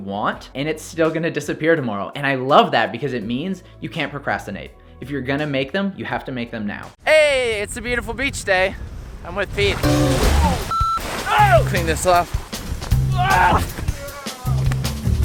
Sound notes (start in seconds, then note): 9.8 beeps; 11.3 yelling